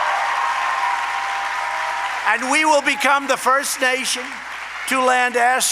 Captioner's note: applause